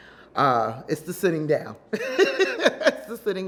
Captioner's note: laughs